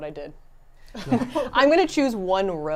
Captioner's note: laughs